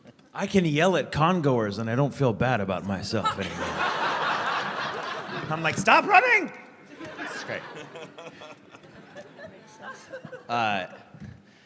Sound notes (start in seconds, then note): 3.2 laughter